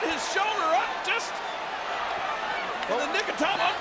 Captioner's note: applause